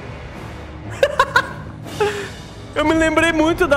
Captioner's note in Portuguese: Risos